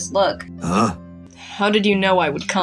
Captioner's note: grunts